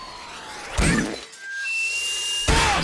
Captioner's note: kettle loudly whistles as the octopus squeezes inside…